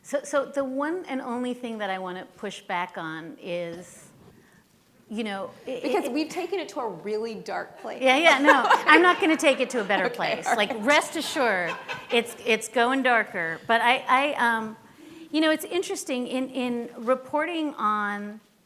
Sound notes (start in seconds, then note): 8.1 laughing